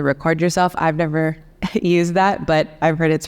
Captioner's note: chuckles